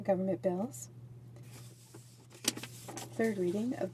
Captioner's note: speaking French